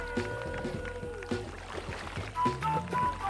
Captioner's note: cheering